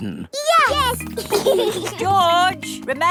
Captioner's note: giggling